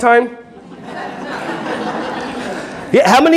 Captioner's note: audience laughing